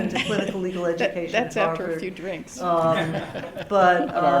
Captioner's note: laughter; laughter